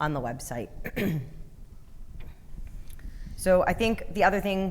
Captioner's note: clearing throat